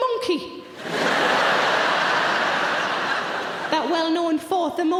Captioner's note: audience laughing